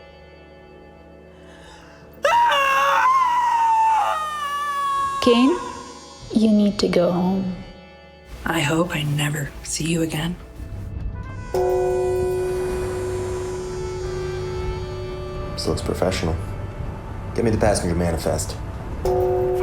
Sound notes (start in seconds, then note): 2.2 Claire screams; 11.5 gong clanging